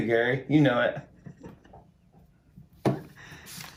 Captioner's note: laughing; taps desk